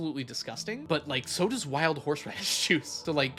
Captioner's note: laughs